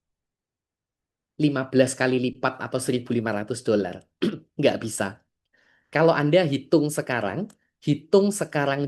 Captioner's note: berdehem